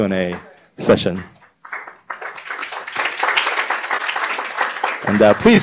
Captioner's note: applause